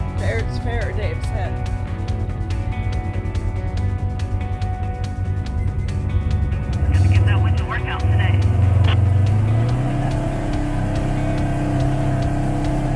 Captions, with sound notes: Fair's fair, Dave says! [over 2-way radio] - Give that winch a workout today!